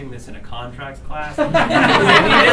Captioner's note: laughter